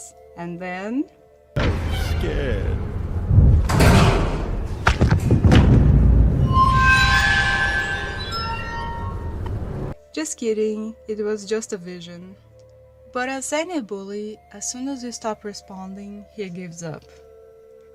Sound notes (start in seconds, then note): 1.4 mockingly; 7.0 tense music